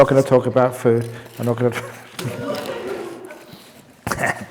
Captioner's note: laughter